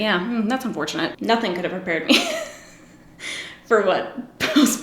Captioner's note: laughs